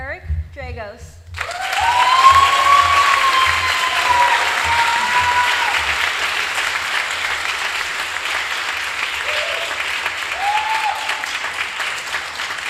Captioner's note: applause